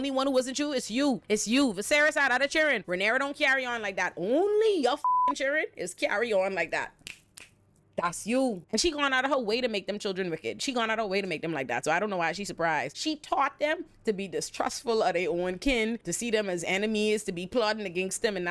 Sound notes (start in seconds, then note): 5.0 beep; 7.0 snaps